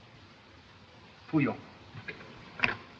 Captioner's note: speaking Chinese